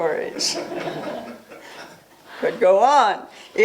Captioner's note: laughter